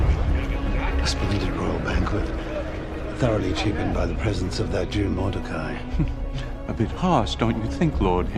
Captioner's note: indistinct chatter